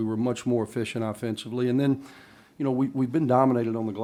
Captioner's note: none